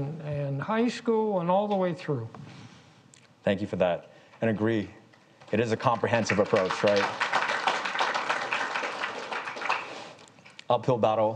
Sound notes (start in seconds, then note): 7.1 audience claps